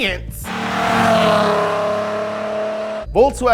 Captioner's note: engine revving